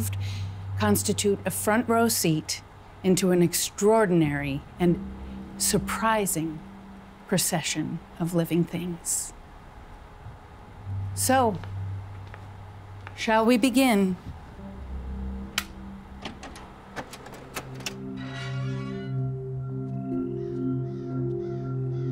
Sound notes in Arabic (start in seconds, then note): 15.1 النقر; 17.8 صرير البوابة; 19.7 الموسيقى الهادئة